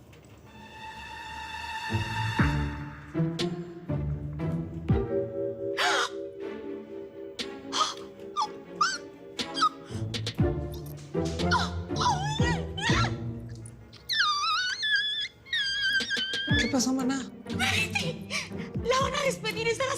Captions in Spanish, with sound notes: [Gritos ahogados] - ¿QUÉ PASÓ, MANA? - ¡BETTY! LA VAN A DESPEDIR...